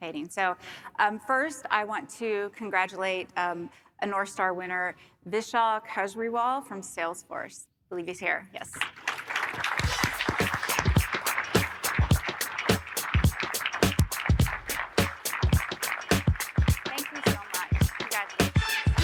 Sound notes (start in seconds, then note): 8.8 audience applauding; 9.8 funky music